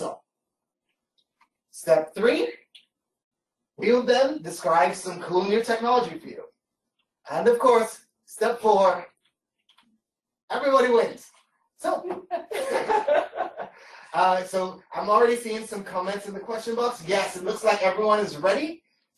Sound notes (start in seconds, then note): 12.0 laughter